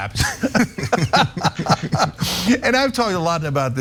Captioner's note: laugh